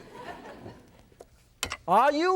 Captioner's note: audience laughs